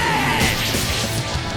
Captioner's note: slashing